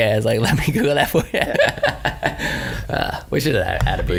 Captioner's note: laughs